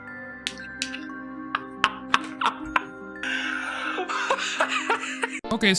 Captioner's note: laughing